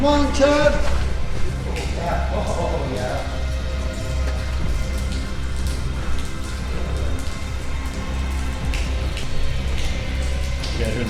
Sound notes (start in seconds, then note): 1.2 dramatic music; 3.7 water trickling; 8.4 dramatic music